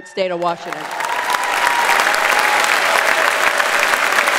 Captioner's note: audience applauds